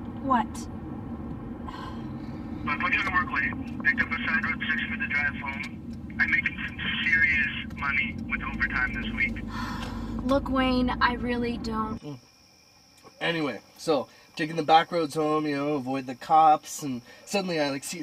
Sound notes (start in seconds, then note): 1.6 sighs; 9.4 sighs; 12.3 crickets chirping